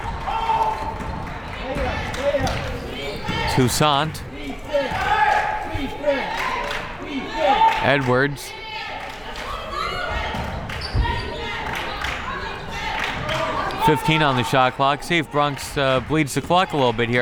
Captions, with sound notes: (crowd members shouting) Toussaint. (crowd members chanting) Edwards. (crowd members chanting) 15 on the shot clock. See if Bronx leads the clock a little bit